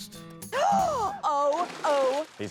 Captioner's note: gasps